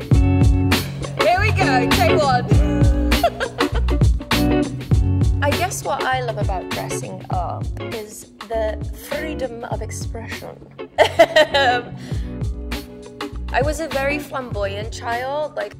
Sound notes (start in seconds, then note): 3.1 laughs; 11.0 laughs